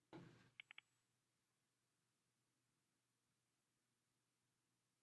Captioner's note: silence